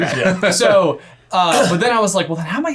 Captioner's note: laughing